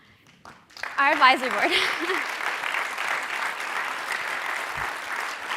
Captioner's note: audience applauding